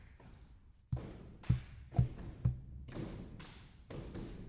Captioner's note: clapping